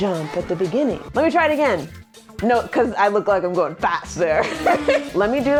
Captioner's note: laughs